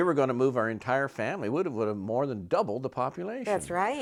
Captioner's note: laughs